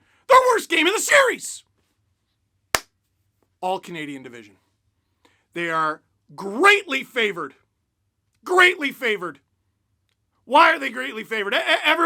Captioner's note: clap